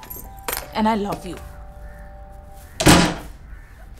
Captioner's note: Door closing